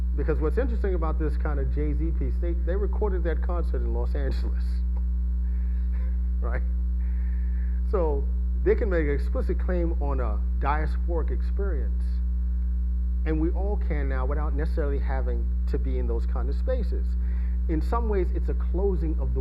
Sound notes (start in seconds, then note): 5.9 laughing